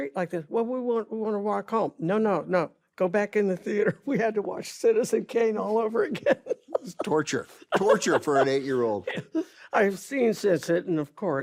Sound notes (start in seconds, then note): 6.0 carol laughs